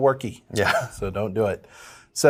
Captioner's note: laughs